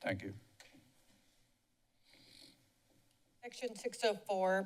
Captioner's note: silence